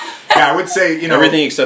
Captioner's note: laughs